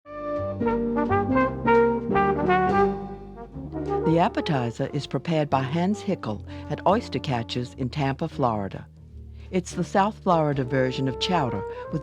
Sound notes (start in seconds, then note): 0.1 upbeat jazz music; 4.0 voiceover